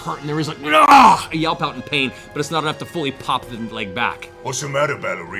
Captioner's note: pained cry